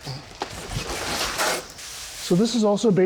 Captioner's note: boxes whooshing